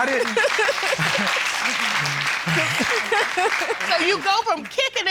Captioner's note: audience applauding